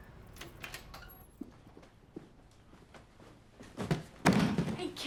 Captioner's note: keys jangling; door latch clicks; box thuds